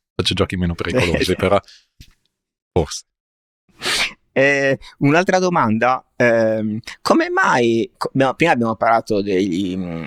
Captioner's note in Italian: sbuffare